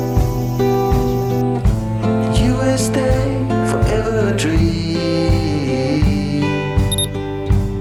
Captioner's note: laughs